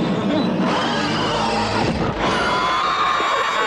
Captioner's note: all scream; laughing